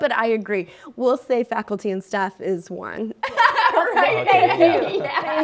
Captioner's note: laughing